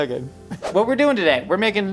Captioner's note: air whooshing